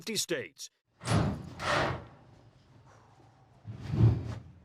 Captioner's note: locker clanks